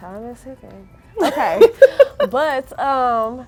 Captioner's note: girls laughing